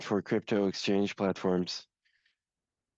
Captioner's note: speaking in French